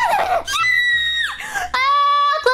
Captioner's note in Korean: 끼야아아악